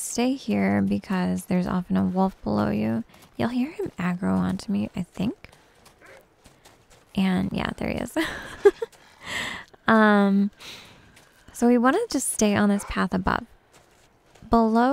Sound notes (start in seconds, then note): 6.0 wolf barks in the game; 10.9 giggles